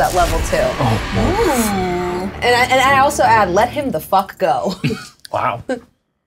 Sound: oohs

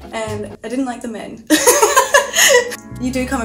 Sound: laughs

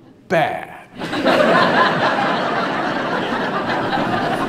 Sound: audience laughs

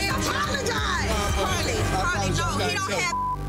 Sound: beep

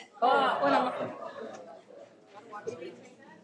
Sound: all murmuring

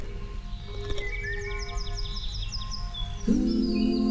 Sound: birds Chirping

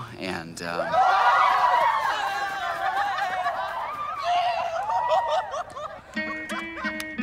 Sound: cheering

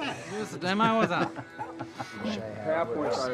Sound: laughs; distant barking

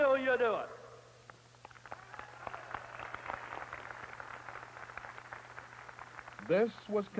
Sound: applause

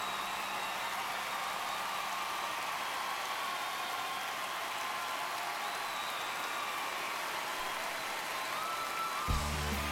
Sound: cheers and applause

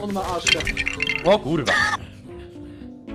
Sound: wheeze

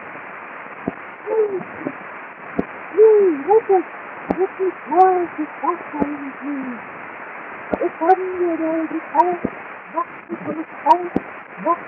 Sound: voice suddenly changes to a high-pitched "child imitation"

